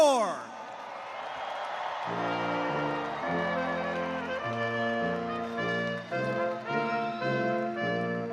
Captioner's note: cheers and applause